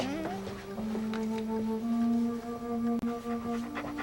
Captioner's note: Spot whimpering